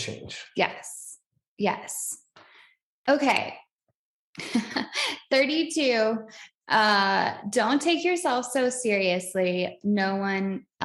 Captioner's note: both laugh